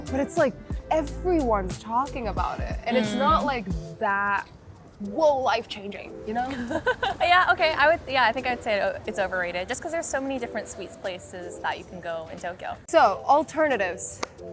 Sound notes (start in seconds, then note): 6.5 laughing